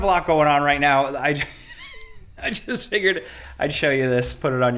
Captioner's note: chuckles